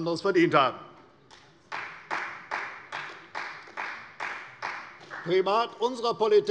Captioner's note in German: Beifall bei der CDU